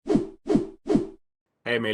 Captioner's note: logo whooshing